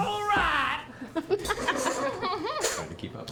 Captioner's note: laughter